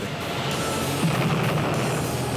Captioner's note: explosion